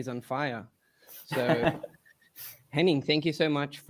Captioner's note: laughs